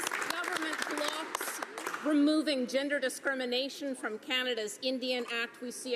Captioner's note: some Applause